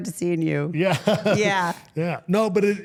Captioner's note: chuckles